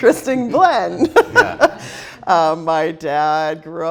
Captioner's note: laughs